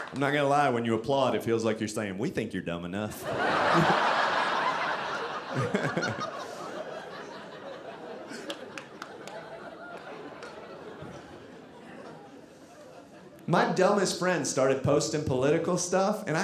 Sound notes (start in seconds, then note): 3.1 audience laughing